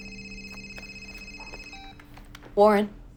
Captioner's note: phone beeps